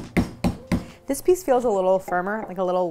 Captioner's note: chopping